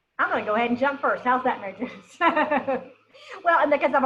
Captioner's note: chuckles